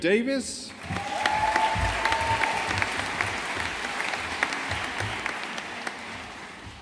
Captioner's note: audience applauding